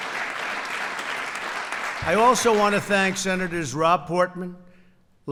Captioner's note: applause